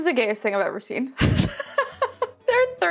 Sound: laughing

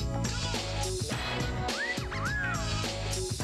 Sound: wolf whistle

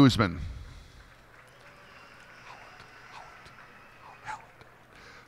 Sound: cheers and applause

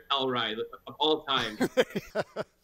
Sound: laughing

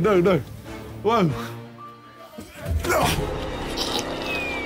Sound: knife slicing

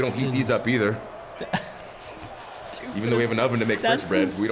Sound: laugh

